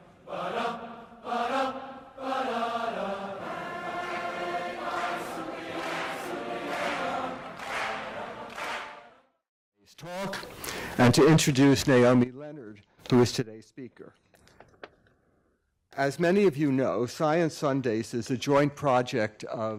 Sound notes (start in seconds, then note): 4.8 crowd clapping rhythmically; 4.8 crowd vocalizing